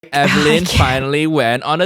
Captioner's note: sighs